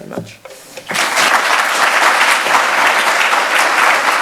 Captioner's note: applauding